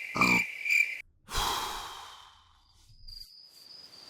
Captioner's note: sigh